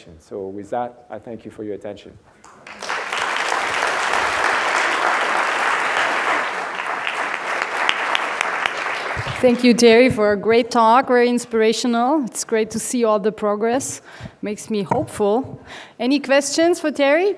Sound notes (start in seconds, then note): 2.5 audience applauds